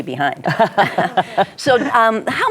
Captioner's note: laughing